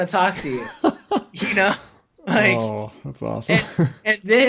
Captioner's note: laughs